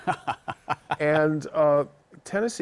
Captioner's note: chuckles